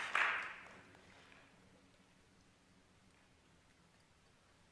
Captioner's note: applause